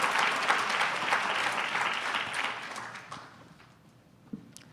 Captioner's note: applause